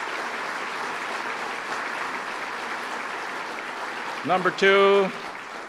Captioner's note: applause